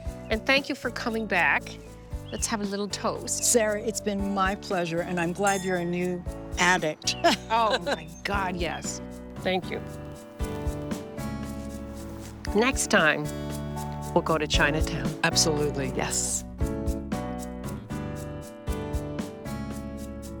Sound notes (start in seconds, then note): 7.2 laughs; 9.7 relaxed piano music; 13.5 relaxed piano music